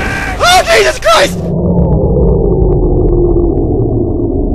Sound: power shuts down

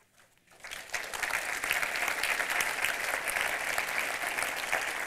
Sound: audience applauding

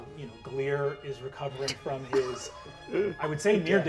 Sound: chuckling

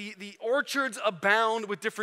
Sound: none

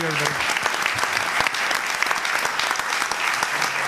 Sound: applause

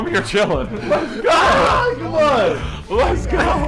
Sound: laughter

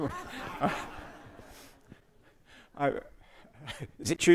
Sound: audience laughs

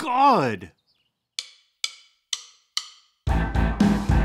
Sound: clicks beat

